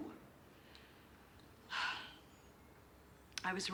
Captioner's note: sighs